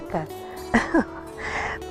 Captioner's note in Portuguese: risos